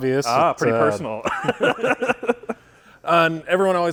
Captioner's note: both laughing